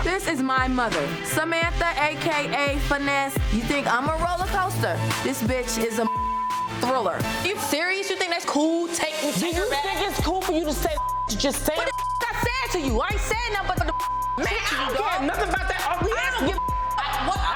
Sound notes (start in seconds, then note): 6.0 beep; 10.9 beep; 14.2 beep; 15.8 overlapping chattering